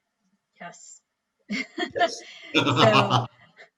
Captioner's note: chuckles; laughs